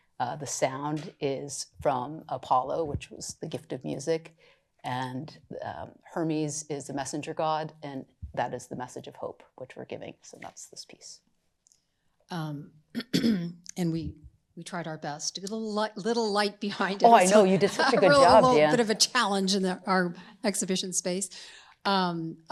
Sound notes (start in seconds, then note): 13.0 clears throat